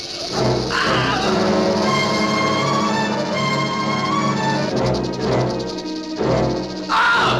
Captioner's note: scream - ominous music